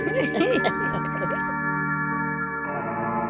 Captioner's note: laughter